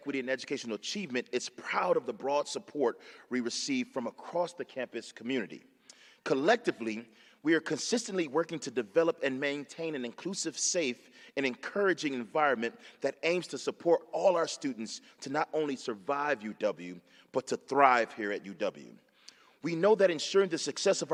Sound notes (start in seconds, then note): none